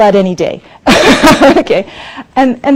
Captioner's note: laughs